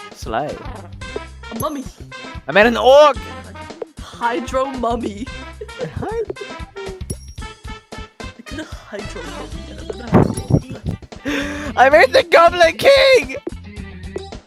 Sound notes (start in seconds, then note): 10.1 aggressive wind noises; 11.2 inhale